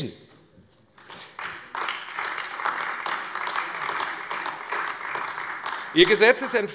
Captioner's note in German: Beifall AfD